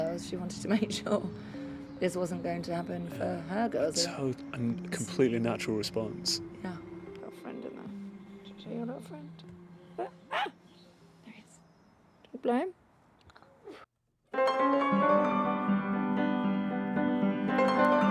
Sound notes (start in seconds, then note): 10.0 dog barks